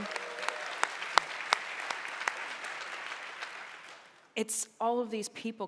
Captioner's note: audience cheering